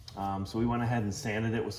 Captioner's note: hand shuffling